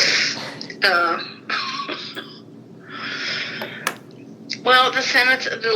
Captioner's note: chuckles